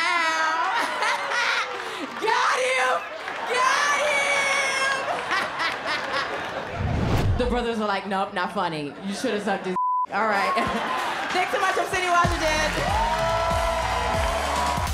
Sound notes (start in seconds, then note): 0.2 laughs; 4.8 laughter; 13.2 cheers and applause